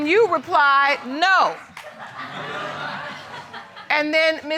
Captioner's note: audience laughing